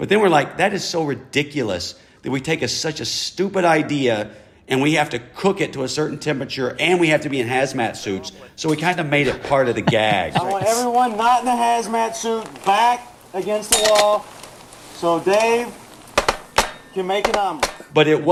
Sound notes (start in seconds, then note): 9.2 laughter; 11.1 soundbite of tv show, "jackass"